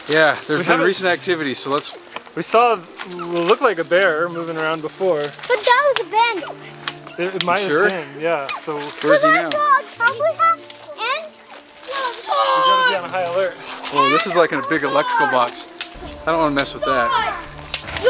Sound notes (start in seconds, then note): 12.1 boy growling